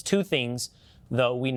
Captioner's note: background voices